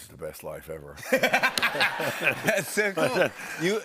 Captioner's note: laughter